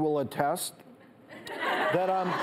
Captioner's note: audience laughs